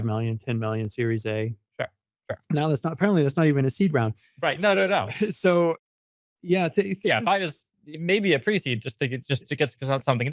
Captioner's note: laughs